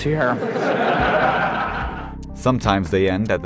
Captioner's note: laughter